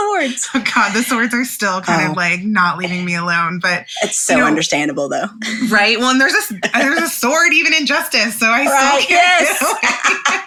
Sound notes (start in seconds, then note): 5.4 laughs